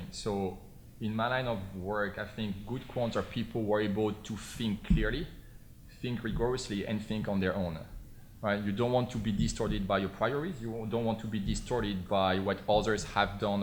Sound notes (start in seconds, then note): none